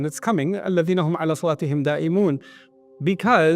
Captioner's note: Arabic